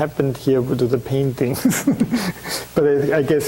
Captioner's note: chuckling